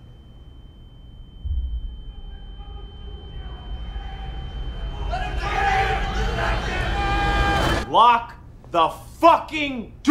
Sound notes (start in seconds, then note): 0.0 ear ringing; 4.2 commotion